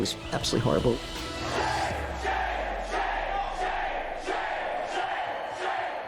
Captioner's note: crowd chanting "Shame, shame, shame!"